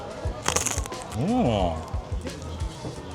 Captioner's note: Crunch